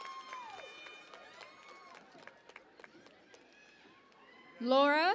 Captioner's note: cheering and Applause